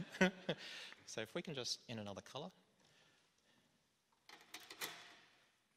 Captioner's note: laughter